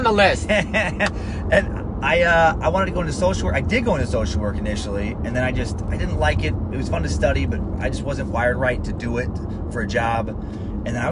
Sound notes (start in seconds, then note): 0.9 laughs